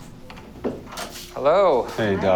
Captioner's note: door clicks open